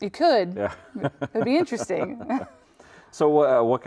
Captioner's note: chuckles